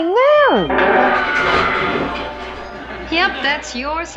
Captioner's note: scream and crashing sound